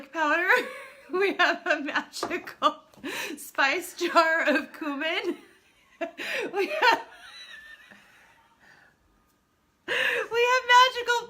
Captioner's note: laughing; laughing very hard